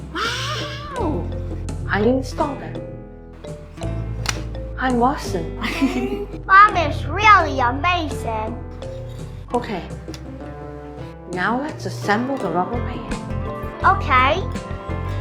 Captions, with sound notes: Wow! I installed it. (clicks) Hi, Watson. (laughs) Mom is really amazing. Okay, now let's assemble the rubber band. Okay.